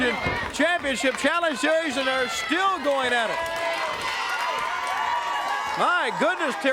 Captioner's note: crowd chatter; crowd cheering